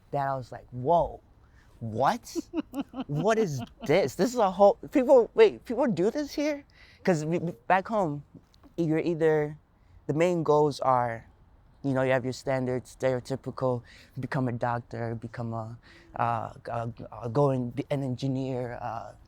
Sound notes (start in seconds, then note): 2.2 laughing